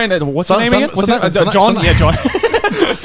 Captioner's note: laughing